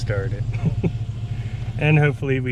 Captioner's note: chuckles